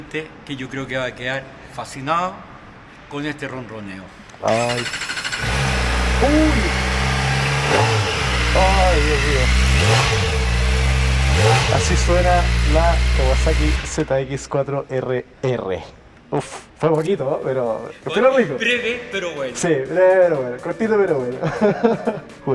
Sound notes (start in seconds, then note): 4.5 ZX4R Engine Sound